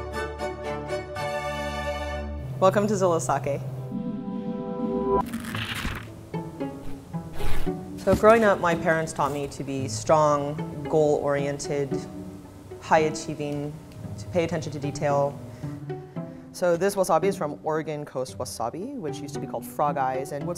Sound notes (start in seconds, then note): 5.2 paper tears; 6.1 scissor rasps